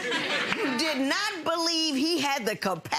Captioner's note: audience laughing